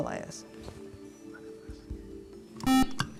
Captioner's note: buzzer